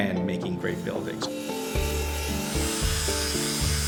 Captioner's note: sawing